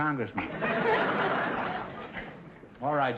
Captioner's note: audience laughter